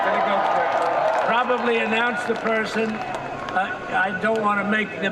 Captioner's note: cheers and applause